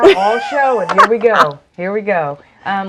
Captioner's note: laughs